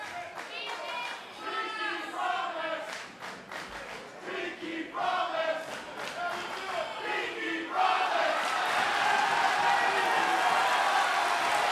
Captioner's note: fans chanting pinkie promise